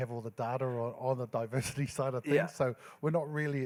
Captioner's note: laughs